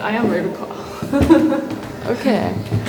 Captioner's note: laughs